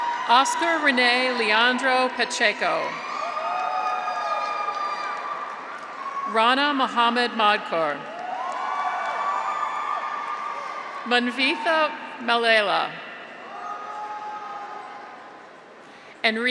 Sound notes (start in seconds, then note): 0.0 audience applauds; 0.0 graduates cheer; 3.4 graduates cheer; 4.1 audience applauds; 8.0 graduates cheer; 8.1 audience applauds; 13.4 graduates cheer